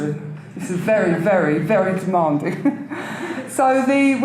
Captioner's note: chuckles